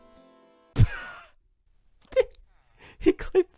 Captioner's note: laughs